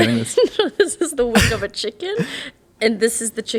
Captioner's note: laughs